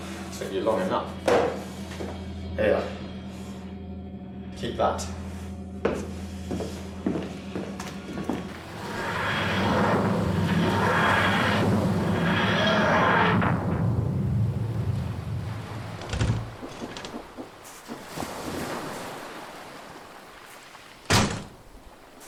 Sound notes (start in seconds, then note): 8.5 whooshing; 15.9 doors opening and closing